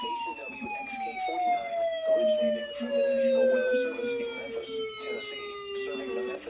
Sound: chinese police siren

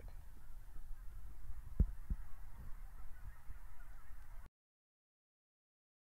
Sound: birds Chirping in Background

